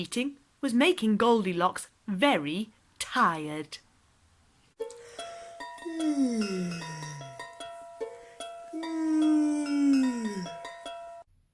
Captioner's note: yawn